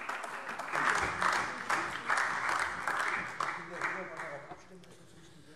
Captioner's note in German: Allgemeiner Beifall